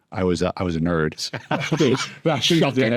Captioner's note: laughs